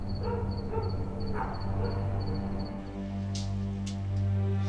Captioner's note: ominous music; distant dog barking; dramatic instrumental music